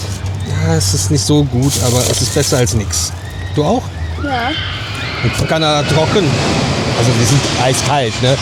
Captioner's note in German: schreien